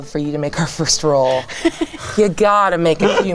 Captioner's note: chuckling